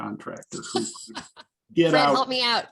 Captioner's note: laughs